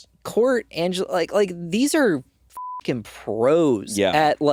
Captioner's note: beeping